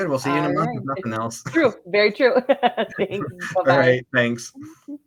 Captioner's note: laughs